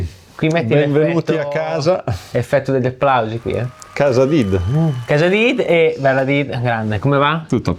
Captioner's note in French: Effet « bienvenue à la maison ». Applaudissements